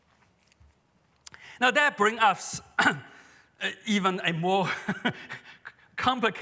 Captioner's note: laughs